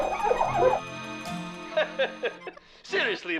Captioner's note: chuckles